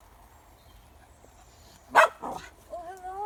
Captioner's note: dog barks